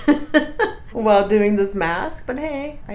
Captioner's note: laughs